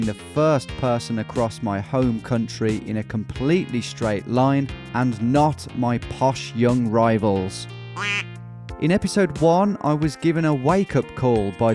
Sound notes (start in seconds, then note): 7.9 quacking